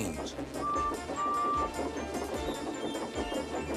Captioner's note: toots